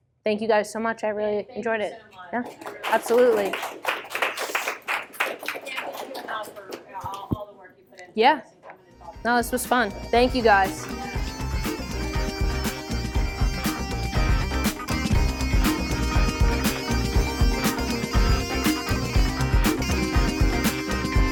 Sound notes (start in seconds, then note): 2.4 applause; 12.0 closing music